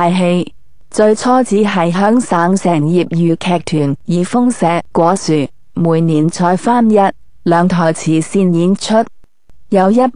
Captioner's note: Cantonese